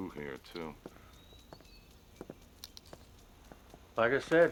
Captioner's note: footsteps approaching